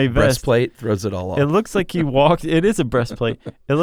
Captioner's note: laughs